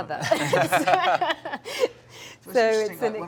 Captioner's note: all laughing